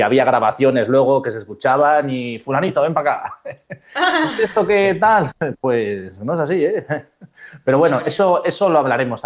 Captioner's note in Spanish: risas